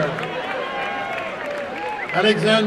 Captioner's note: applause and cheering